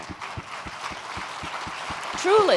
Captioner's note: applause